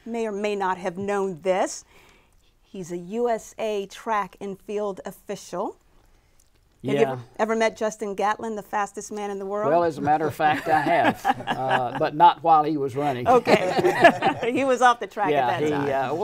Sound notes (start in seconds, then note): 13.0 laughing